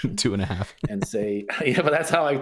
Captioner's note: laughter